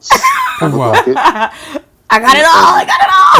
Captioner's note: laughing